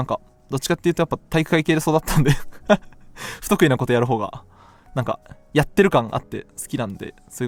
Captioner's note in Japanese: 笑い